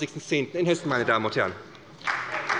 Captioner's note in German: Beifall bei der SPD